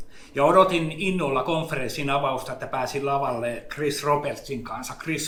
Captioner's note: speaks in Finnish language